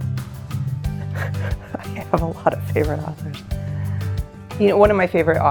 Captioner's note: chuckles